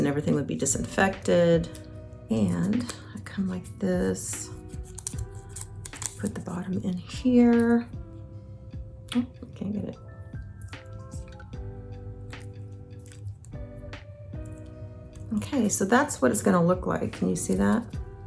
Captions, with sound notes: and everything would be disinfected. And I come like this, (wrapper crackling) put the bottom in here. Oh, I can't get it. (gentle music) Okay, so that's what it's gonna look like. Can you see that?